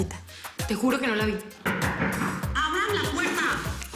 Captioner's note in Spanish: Toques en la puerta